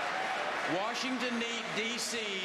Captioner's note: applause